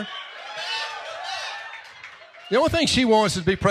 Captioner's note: applause